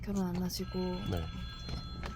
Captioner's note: phone ring